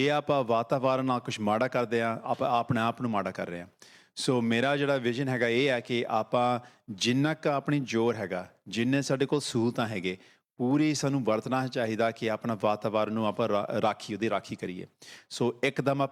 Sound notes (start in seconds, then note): none